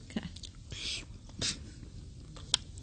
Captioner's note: slurps; chuckle